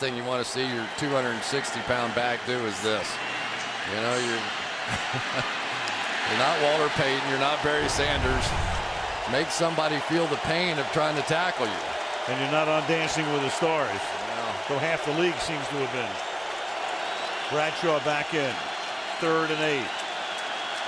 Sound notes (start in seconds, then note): 5.7 laughs